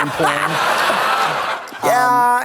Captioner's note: Trixie chuckles; audience laughs